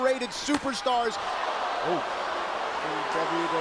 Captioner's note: crowd cheering